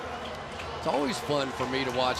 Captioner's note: pa announcement